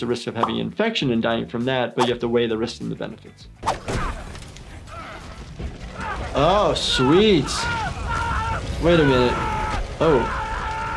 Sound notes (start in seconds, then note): 4.1 shouting; 5.9 screaming